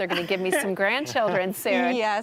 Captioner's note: laughs